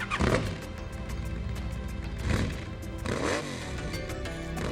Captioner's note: motorcycle roaring